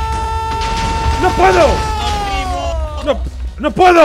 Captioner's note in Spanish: grita; grita